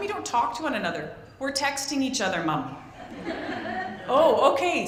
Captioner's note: laughter